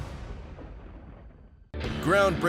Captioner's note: thunder cracks